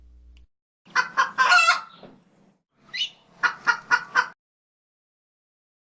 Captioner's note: chicken Clucking